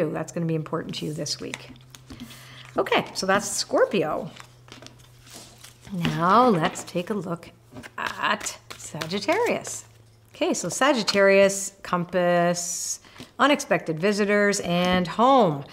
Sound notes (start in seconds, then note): 7.7 cards shuffling